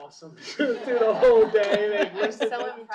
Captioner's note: laughter